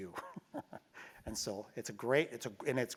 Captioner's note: laugh